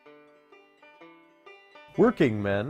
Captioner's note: Vietnamese